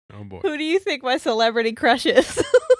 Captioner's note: laughing